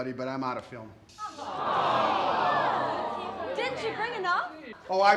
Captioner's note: all groaning